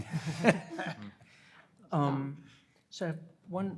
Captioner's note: panelists laughing